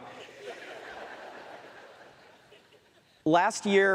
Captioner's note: more laughter from audience